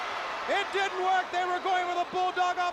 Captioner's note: crowd cheering